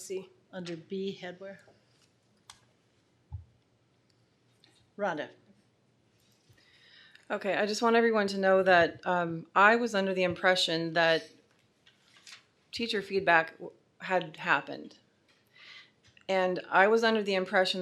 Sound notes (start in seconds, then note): none